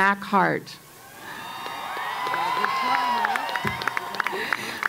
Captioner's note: cheering and Applause